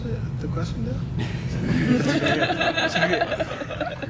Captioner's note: laughter